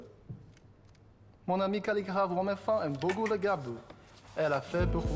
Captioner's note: French